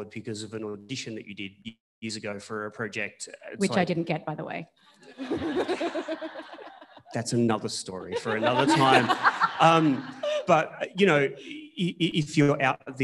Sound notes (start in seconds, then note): 5.0 audience laughing